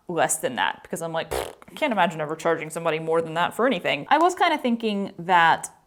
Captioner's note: mouth fart